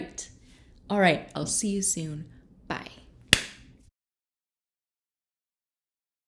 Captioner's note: claps hands